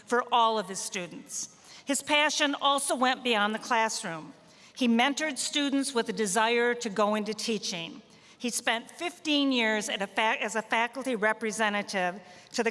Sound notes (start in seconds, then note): none